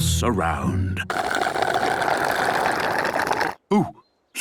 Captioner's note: slurping